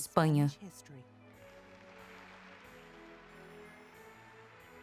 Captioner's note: applause